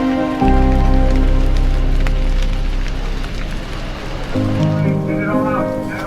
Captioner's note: fire flames crackling